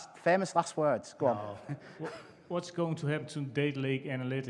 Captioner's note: laughter